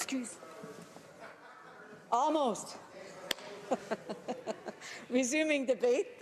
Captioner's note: speaking French